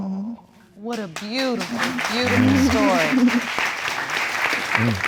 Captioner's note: audience applauding